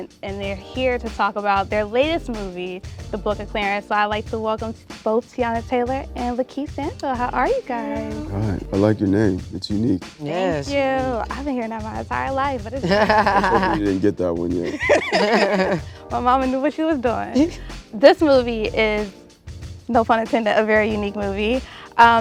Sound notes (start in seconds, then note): 12.8 laughs